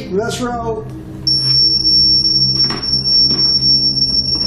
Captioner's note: beeping